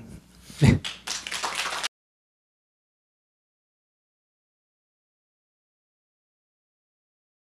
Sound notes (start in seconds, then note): 0.7 audience applause